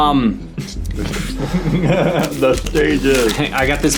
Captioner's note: laughing